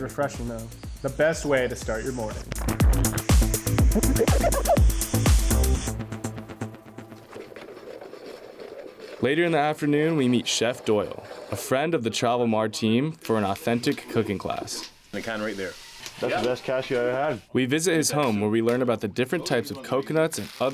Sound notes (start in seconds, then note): 11.3 camera lens squeaks